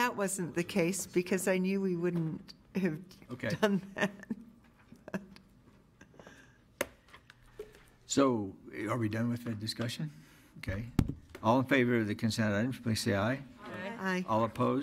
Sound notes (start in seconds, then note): 5.9 laughs